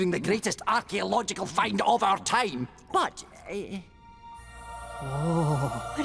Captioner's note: none